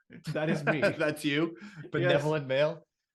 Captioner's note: laughs